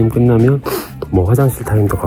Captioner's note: sniff